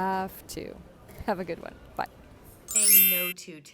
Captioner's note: chiming